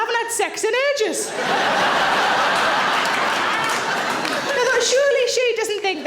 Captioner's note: audience laughing